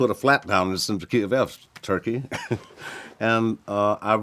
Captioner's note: chuckles